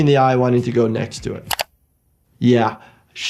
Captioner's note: mouse clicking